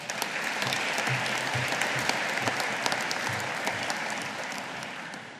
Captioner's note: audience applauding